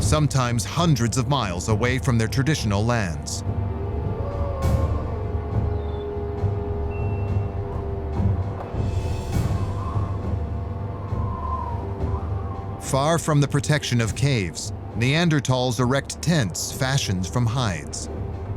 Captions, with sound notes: Sometimes hundreds of miles away from their traditional lands. [wolf howling in distance] [ominous music] [wind howling] Far from the protection of caves, Neanderthals erect tents fashioned from hides.